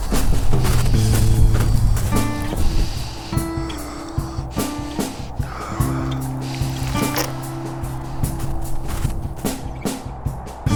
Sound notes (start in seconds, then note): 6.5 blood squishes